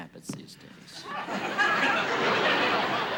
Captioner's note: laughter